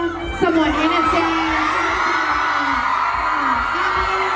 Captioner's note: crowd cheers